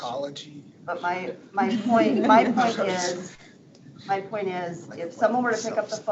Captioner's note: board members laughing